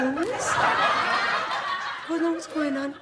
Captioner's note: audience laughs